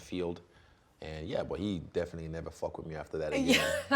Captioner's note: laughing